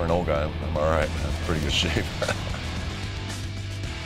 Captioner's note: laugh